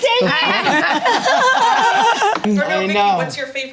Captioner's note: group laughs